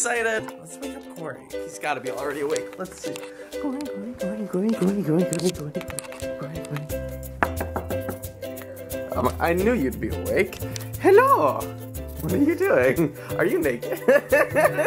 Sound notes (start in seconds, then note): 7.4 knocks on door; 13.9 laughs